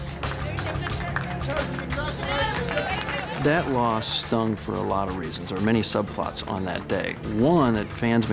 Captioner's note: cheering